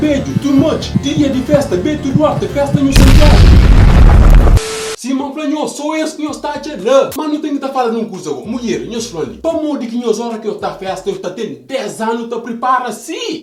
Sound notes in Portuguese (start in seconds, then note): 2.9 explosão